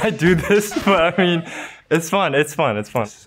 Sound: and producer laughing

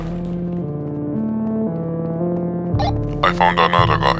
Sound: radio transmission on

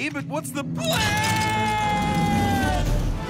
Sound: screaming

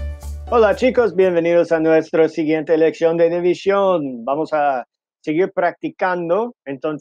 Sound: speaking in foreign language

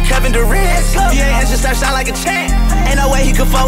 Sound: vroom

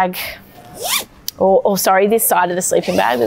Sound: zipper sliding

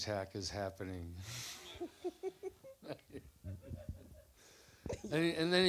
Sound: laugther

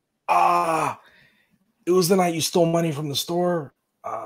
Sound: exclaims

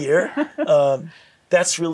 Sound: laughing

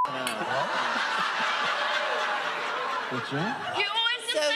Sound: audience laughing

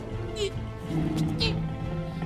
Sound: groaning

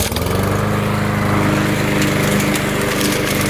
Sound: lawnmower starts

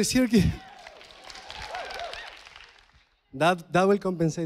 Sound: audience applauding

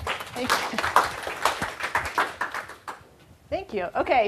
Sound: applause

